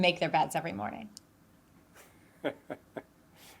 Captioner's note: laughs